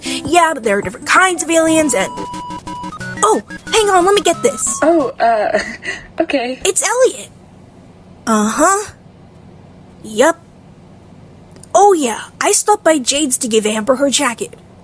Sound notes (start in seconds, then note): 4.9 chuckles